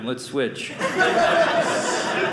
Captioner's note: audience laughing